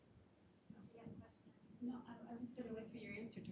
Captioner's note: faintly speaking